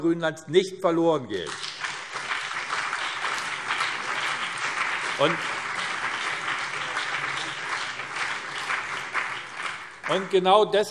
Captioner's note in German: Beifall BÜNDNIS 90/DIE GRÜNEN und CDU